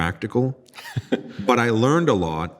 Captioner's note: laughing